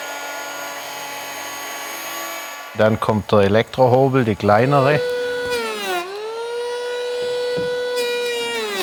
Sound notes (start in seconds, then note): 5.5 continuous whirring